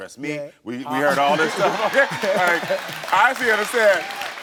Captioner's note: audience laughs; laughs